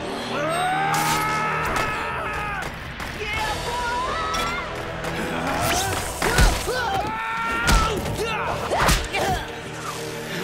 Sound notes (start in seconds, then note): 0.3 screaming; 5.2 grunting; 5.4 screaming; 8.3 grunting